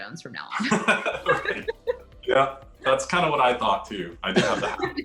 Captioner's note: laughs; all laugh